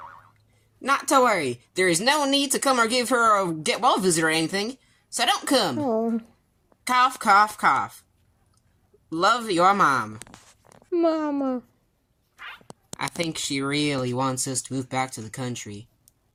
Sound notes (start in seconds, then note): 6.1 Komasan groans concerningly